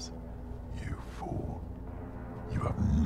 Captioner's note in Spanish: En voz más grave; En voz más profunda